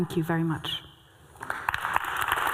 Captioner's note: applause